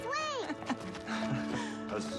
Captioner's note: laughs